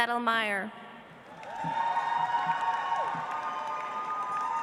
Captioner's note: audience applauds